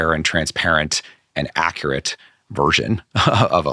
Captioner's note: laughing